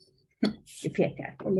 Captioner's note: Swedish